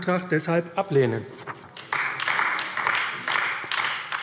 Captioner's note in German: Beifall AfD